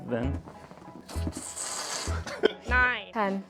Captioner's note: fart